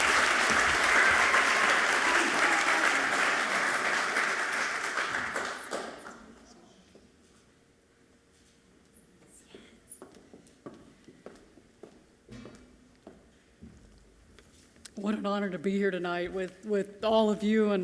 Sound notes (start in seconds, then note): 5.9 speaking away from mic